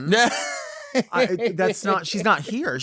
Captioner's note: laughing